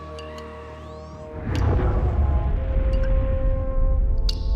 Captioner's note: boom